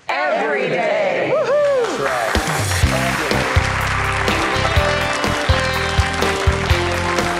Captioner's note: applause; upbeat music